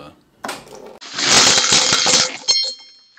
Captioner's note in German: Fallgeräusch